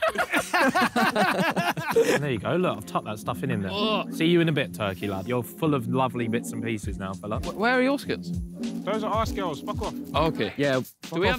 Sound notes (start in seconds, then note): 0.0 all laughing; 3.9 groans